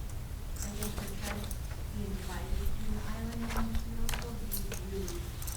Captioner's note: speaking off microphone